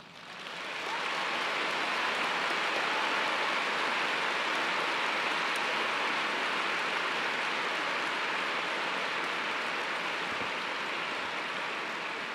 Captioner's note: applause